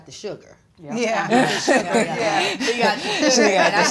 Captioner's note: all laughing